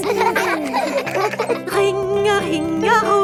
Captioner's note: giggling